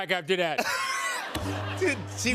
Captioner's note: laughter